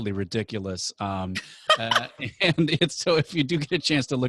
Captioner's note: laughs